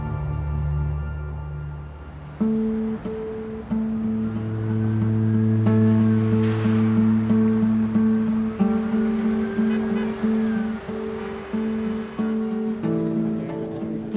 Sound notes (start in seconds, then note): 3.1 sirens blaring in distance; 10.0 car horns honking